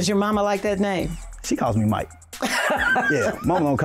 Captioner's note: laughing